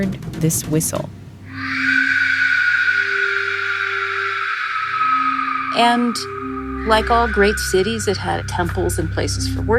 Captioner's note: soundbite of whistle sounding